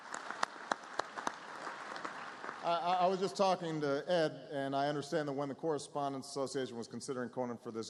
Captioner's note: applause